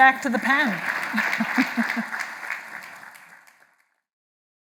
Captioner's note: applause